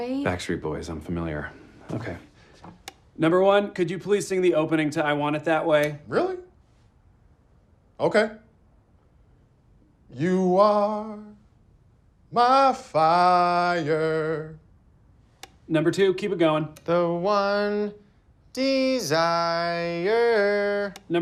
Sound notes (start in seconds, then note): 2.6 click; 15.4 click; 20.9 click